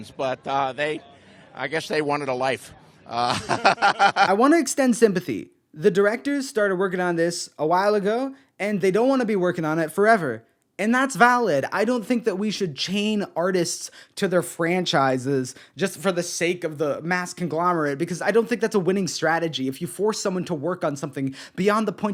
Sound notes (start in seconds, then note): 3.0 laughing